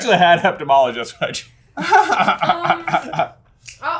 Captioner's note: laughing